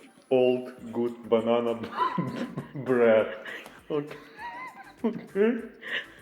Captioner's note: laughing